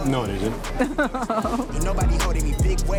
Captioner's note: laughs